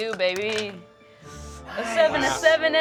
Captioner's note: rolls dice